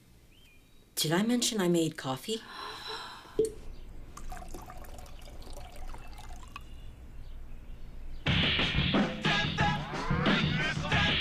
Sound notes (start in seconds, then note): 2.4 gasps; 8.3 upbeat rock music